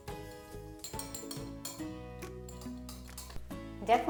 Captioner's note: glass clinking